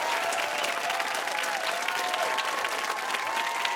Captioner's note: cheers and applause